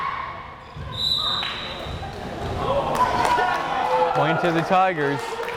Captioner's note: whistle blares